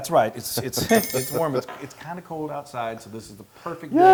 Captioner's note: laugh